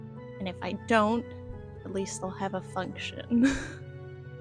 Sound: laughter

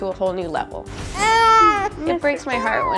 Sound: baby cries

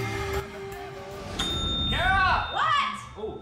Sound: dinging

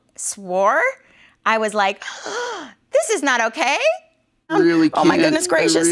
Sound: gasp

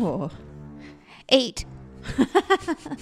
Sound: laughter

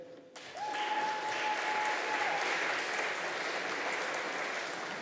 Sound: audience applauding

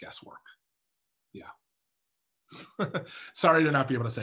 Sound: laughs

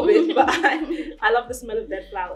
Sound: laughs

